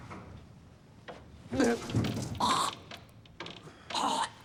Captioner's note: vomits, retches